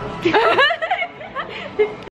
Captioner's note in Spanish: chicas riéndose